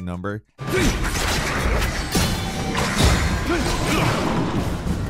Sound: weapons clanging

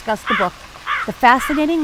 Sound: crow caws

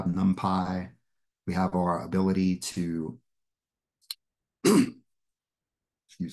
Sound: sneezes

